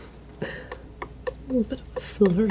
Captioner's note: tapping